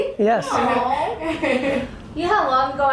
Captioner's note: laughing